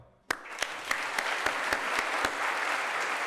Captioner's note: applause